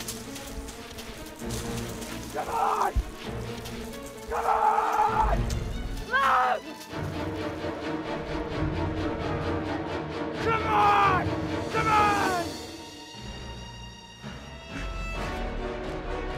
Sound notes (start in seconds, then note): 2.1 yelling; 5.7 yelling; 10.1 yelling